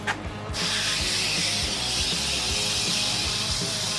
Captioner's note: spraying